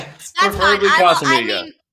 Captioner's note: laughing